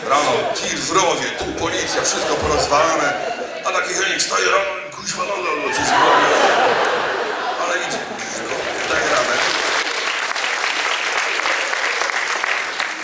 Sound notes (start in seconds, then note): 5.8 audience laughs, applause; 8.2 applause